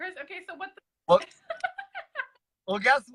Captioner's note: laughs